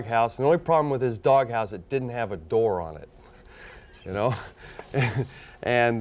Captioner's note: chuckles